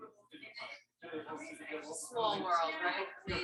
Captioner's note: people chattering indistinctly